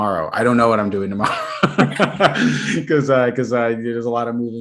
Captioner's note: laughter